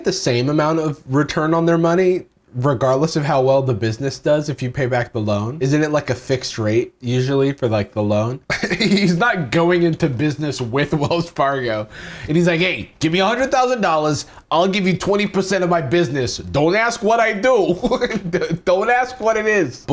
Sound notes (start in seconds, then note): 17.7 chuckles